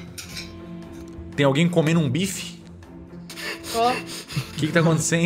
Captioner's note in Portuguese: risadas